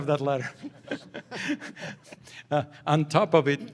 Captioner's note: laughter